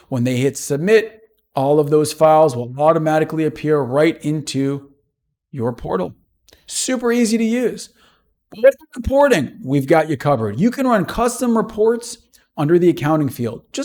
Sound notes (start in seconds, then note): 8.5 audio distorts